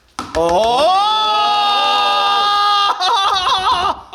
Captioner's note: men yelling